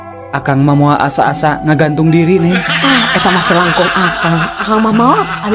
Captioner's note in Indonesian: tertawa